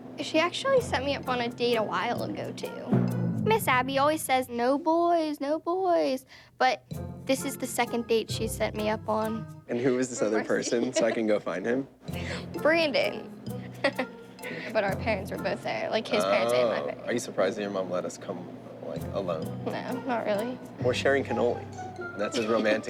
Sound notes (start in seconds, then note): 10.4 laughs